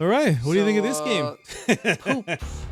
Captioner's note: laughing